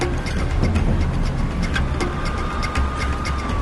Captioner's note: Сирена плаче